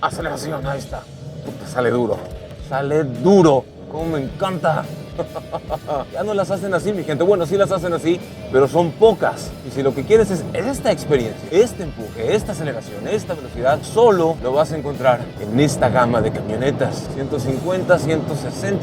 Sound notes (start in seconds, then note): 5.1 laughter